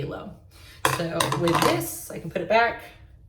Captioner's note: tumbling brush on table